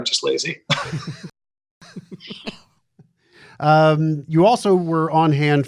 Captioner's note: laughter